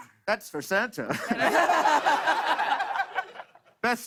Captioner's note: laughter